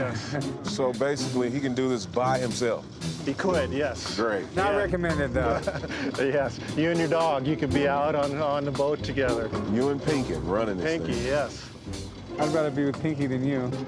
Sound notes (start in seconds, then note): 4.4 laughs